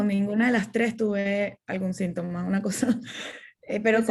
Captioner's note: laughter